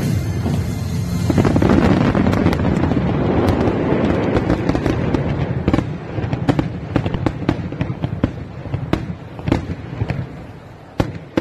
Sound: fireworks

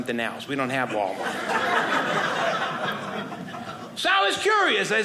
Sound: audience laughing

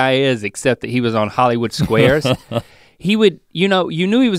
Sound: Rhett chuckles

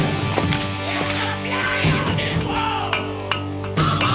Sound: footsteps

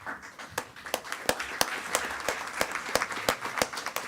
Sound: attendees clapping

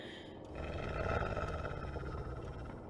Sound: Moony growling

